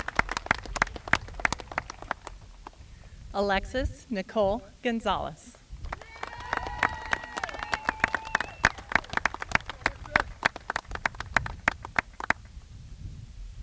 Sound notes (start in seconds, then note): 1.7 applause